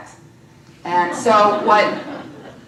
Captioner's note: laughter